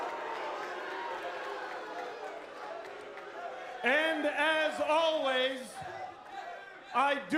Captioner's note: crowd cheering